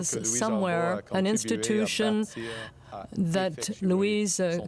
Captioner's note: speaking French